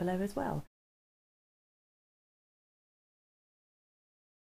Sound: silence

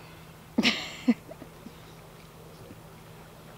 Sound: chuckles

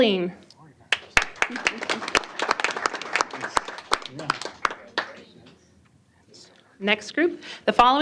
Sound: applause

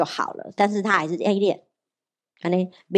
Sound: Taiwanese

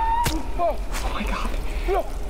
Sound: keening; thudding

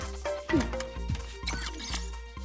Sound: beeping

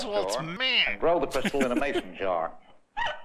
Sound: chuckles

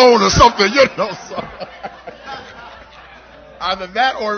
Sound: laughter

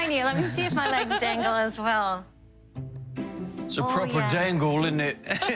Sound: British accent

